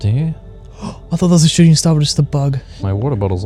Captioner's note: gasps